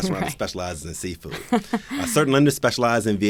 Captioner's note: laughs